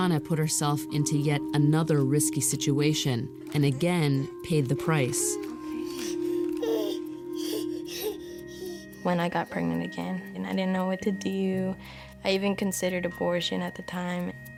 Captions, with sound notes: BRYANA PUT HERSELF INTO YET ANOTHER RISKY SITUATION AND AGAIN PAID THE PRICE. OKAY. [ WHIMPERING ] WHEN I GOT PREGNANT AGAIN AND I DIDN'T KNOW WHAT TO DO, I EVEN CONSIDERED ABORTION AT THE TIME.